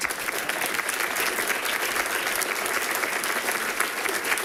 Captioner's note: people clapping